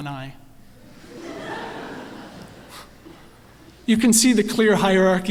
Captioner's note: laughter